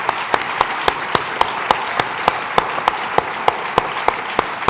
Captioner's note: applause